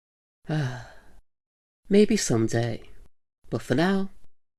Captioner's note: sigh